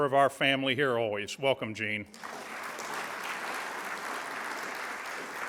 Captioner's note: audience applauds